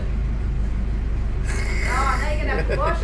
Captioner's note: laughs